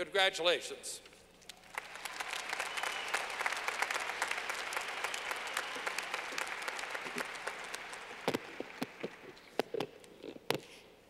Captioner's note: clapping